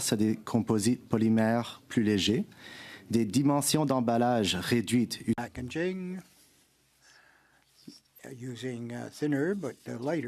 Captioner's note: speaking French